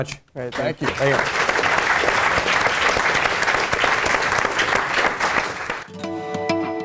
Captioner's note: applause